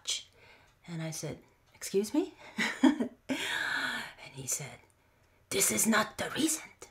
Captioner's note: laugh